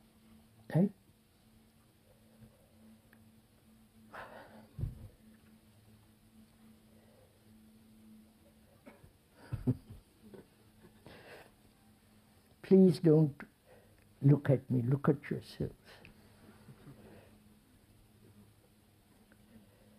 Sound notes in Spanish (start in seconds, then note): 9.4 Risas